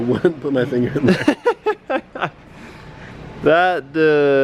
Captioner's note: laughs